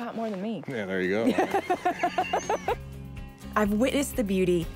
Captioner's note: laughter